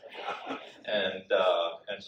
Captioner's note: audience laughs